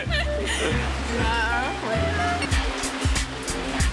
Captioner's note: laughing; upbeat music